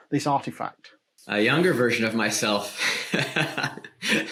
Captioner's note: laughs